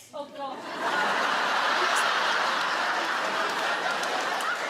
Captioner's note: audience laugh